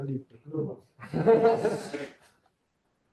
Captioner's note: laughter